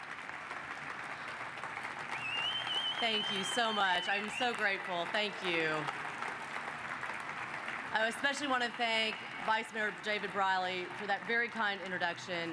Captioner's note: applause